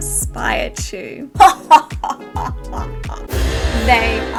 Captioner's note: evil laugh